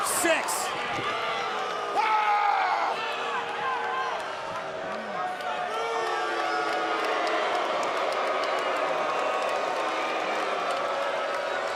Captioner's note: crowd cheering